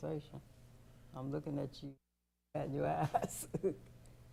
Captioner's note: chuckles